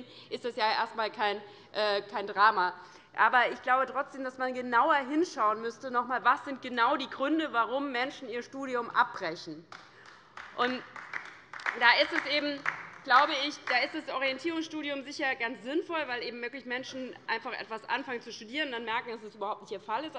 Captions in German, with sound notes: ist das erst einmal kein Drama. - Trotzdem glaube ich, dass man sich noch einmal genauer anschauen müsste, welches die Gründe dafür sind, dass Menschen ihr Studium abbrechen. [Beifall bei der LINKEN] Da ist ein Orientierungsstudium sicherlich ganz sinnvoll; denn Menschen, die anfangen, etwas zu studieren, können dann frühzeitig merken, dass es überhaupt nicht ihr Fall ist.